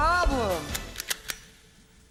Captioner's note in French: musique héroïque; coups de gâchette